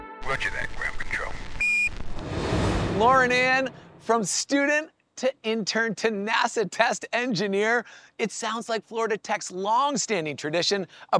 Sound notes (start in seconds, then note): 1.6 beeping